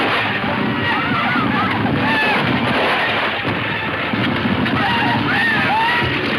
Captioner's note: gunshots banging; riders shouting